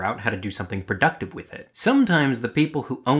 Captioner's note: none